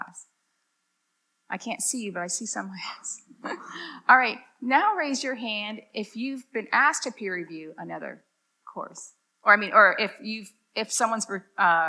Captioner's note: laughs